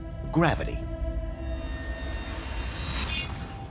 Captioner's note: sawing, shearing sound